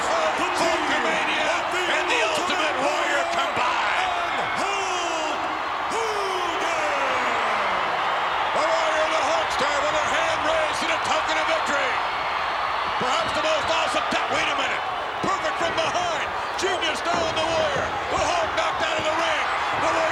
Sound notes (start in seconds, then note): 6.3 crowd cheering